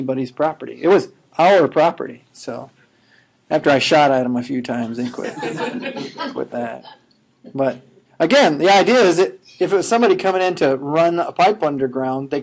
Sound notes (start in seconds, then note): 5.1 laughing